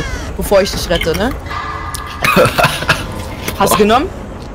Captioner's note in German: hustet vom Alkehol